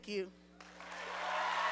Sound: applause

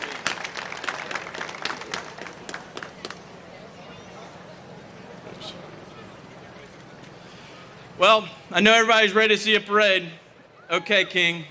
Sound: applause

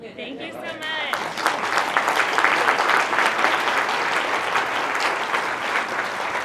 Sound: applause

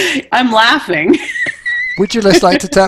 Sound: laughing

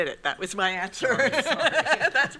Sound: laughs

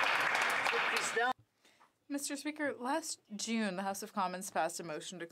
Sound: applause

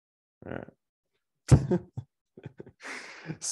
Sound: chuckles

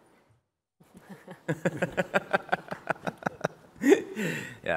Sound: laughter

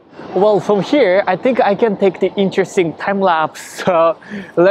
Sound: none

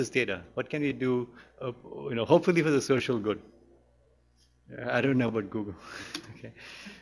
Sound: chuckles

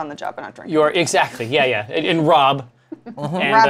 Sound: laughs

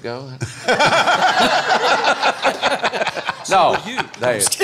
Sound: loud laughter

